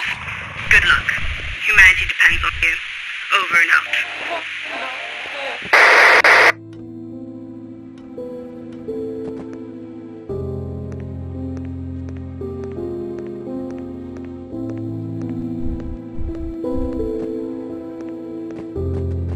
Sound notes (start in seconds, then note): 5.8 radio static cuts out